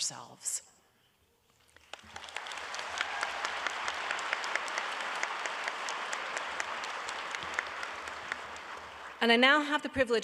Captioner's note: audience applauding